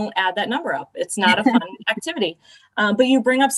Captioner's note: laughter